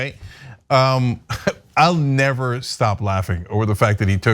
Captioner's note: laugh